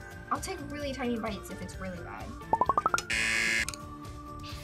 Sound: buzzer

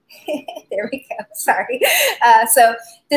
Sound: laughs

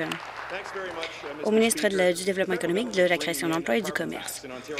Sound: applause

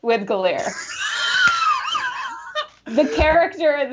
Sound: Brennan laughing

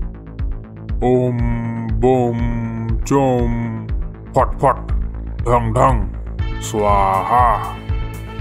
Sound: chanting magic spells

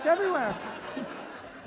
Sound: audience laughter

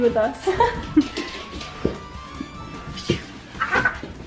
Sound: laughing

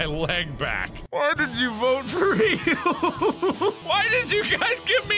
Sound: cry-laughing

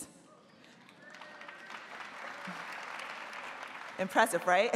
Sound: audience applauding

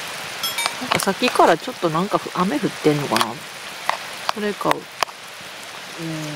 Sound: rain

